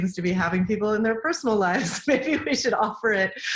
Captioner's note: laughing